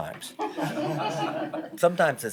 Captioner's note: laughter